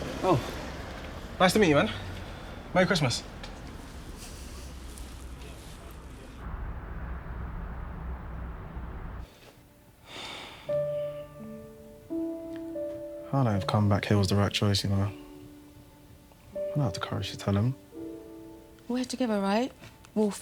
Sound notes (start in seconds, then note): 9.4 sentimental music; 10.1 Ethan sighing